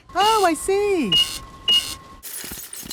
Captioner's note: cash register beeping